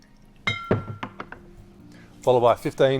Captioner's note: liquid pours; clinks